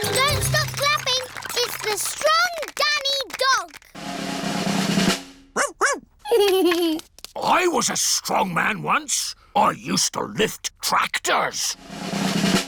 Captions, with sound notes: Don't stop clapping. It's the strong Danny Dog! (DRUMROLL) Woof! Woof! (GIGGLES) I was a strongman once. I used to lift tractors.